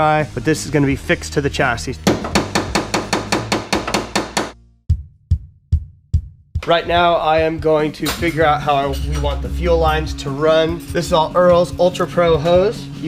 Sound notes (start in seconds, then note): 2.0 hammer bangs